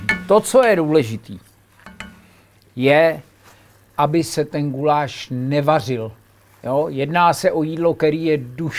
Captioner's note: boil